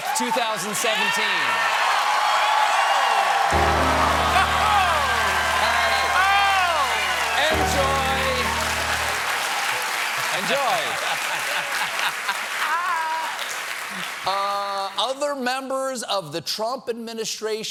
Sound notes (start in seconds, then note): 5.7 cheers and applause; 5.7 piano riff